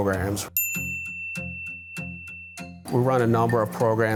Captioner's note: caption dings